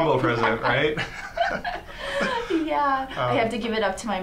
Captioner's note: laughs